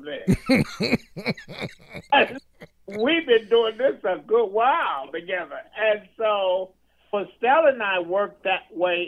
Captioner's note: laughing